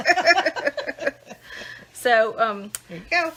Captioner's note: laughing